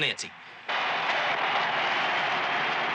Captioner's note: crowd cheering